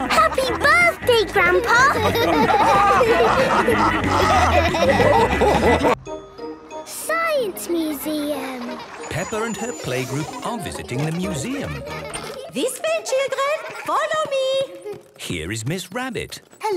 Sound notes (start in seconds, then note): 3.1 all laughing